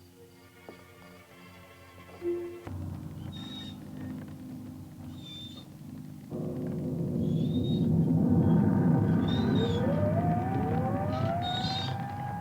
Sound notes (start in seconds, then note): 6.2 cart wheels creaking; 8.6 eerie music continues